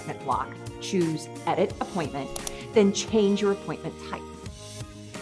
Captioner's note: mouse Click